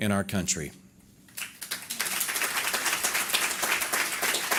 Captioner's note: audience applause